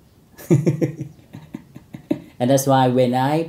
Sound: laughing

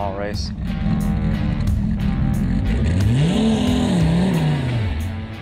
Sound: car engine roaring

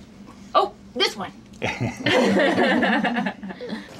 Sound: laughter

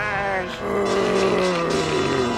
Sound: moaning

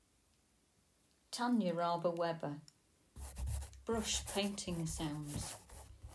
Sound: brush painting sounds

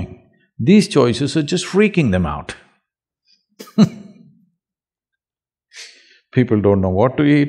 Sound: laughs

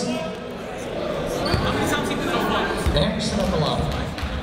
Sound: chatter

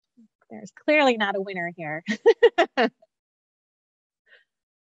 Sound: laughs

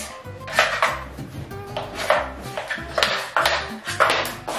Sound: shoes tapping

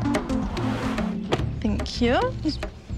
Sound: door slams

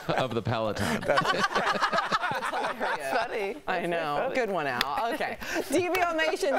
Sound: laughter

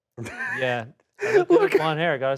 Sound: laughs

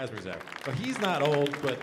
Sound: audience applauding

